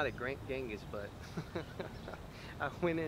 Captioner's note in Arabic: يضحك